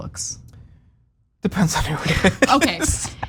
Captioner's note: laugh